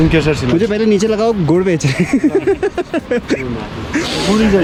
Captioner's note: laughs